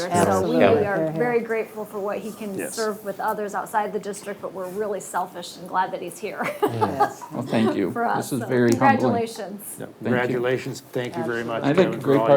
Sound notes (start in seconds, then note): 6.4 laughs